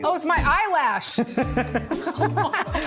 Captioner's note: laughter